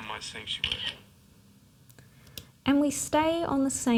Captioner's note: clicking